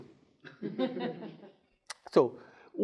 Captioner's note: students chuckling